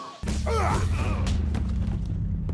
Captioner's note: men grunting